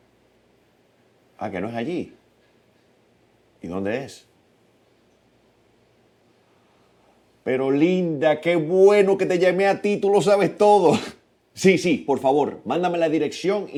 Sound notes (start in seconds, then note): 10.8 laughing